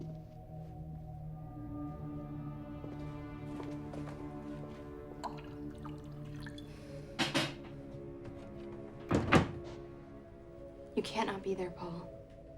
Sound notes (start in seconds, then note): 0.2 tense music; 5.2 whiskey glugging; 9.0 closer door thuds